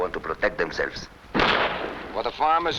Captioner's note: gunshots blasting